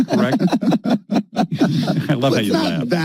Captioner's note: laughing